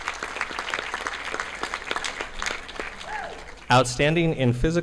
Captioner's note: audience clapping